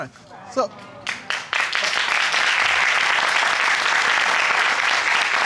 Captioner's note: crowd applauding